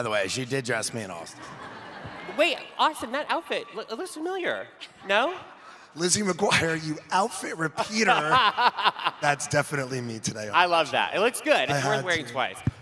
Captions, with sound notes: She did dress me and Austen. Wait, Austen, that outfit looks familiar, no? Lizzie McGuire, you outfit repeater. [laughing] That's definitely me today. I love that. It looks good. It's worth wearing twice. - I had to.